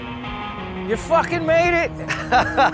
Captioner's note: laughs